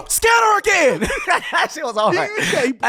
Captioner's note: laughing